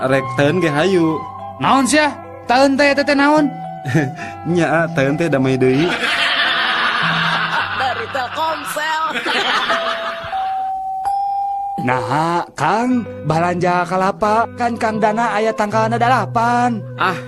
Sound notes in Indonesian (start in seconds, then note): 10.4 tertawa